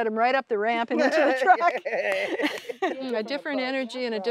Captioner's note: laughter